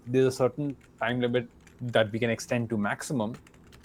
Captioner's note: none